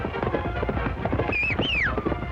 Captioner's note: whistling